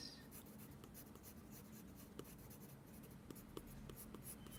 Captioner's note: dotting sound